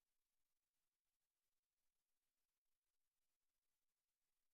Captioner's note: none